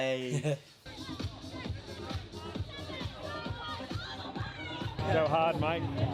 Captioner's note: laughs; upbeat music; crowd chattering